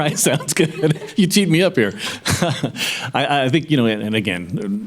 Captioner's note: laughing; laughs